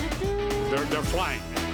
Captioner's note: <i> hums fanfare</i>